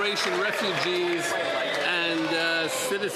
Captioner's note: some Applause